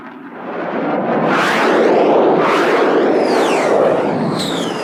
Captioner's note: planes buzzing